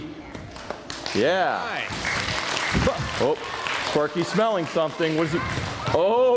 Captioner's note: applause